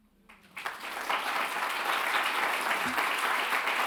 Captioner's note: audience applauds